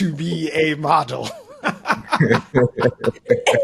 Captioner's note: laughing